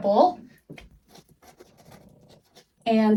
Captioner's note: scribbling noises